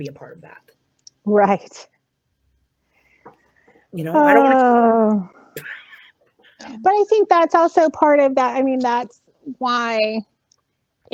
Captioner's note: heavy sigh